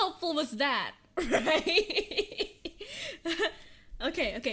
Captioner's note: nervous laughter